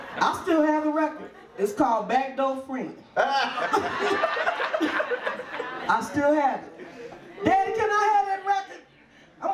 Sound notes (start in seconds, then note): 3.2 audience laughs